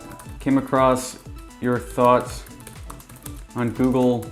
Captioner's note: keyboard typing